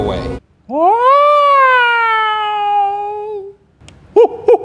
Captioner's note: crying and hooting